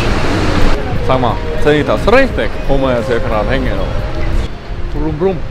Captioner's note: mocks German accent